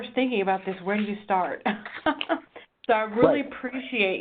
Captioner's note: laughs